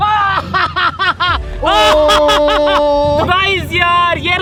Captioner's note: laughing